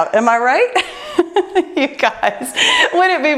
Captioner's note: laughing loudly